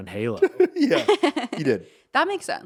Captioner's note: laughing